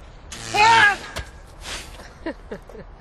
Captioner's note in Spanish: Gritos